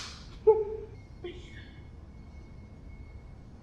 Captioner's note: laughter